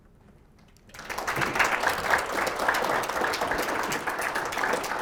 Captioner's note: students clapping